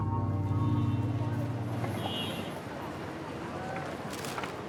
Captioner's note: vehicles honking